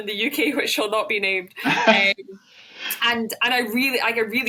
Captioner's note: laughs